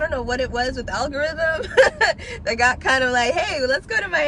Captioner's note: laughs